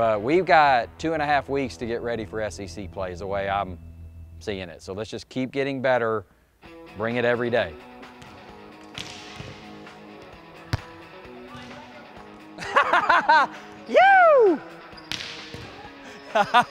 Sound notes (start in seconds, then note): 8.7 balls bouncing; 12.5 laughter